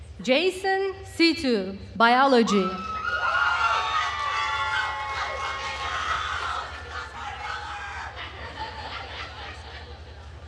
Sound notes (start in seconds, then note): 2.9 attendees cheering and applauding